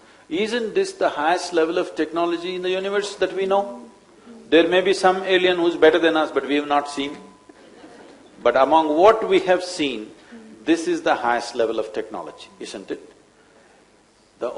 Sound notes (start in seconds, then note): 7.6 few laugh